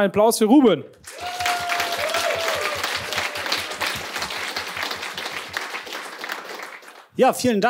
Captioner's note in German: Applaus